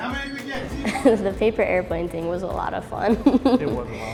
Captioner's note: chuckles